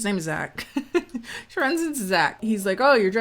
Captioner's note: laughing